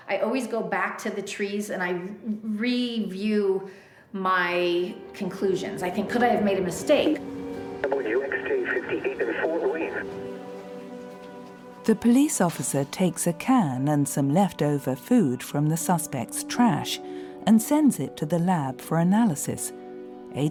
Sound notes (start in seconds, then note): 7.3 tense orchestral music; 8.1 chatter on radio